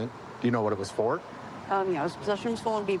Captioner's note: none